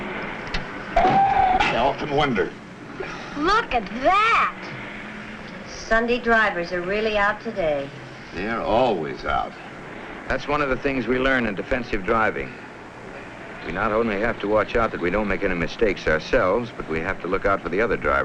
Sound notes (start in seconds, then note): 1.1 tires screeching